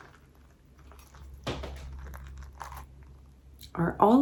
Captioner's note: cantaloupe seeds squishing